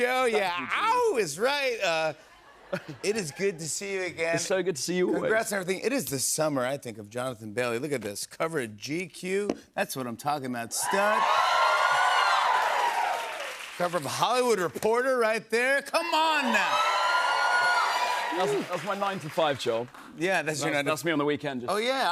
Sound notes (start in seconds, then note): 10.7 cheers and applause; 16.0 cheers and applause